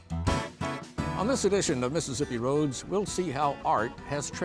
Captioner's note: upbeat country music; voiceover